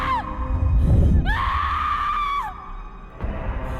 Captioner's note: scream